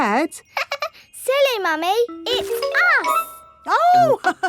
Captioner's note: laughs; chuckles